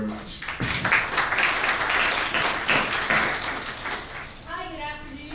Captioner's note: audience clapping